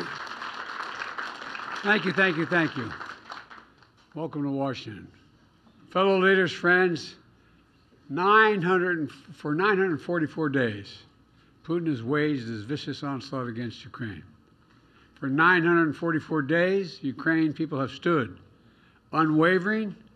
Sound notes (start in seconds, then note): 3.4 applause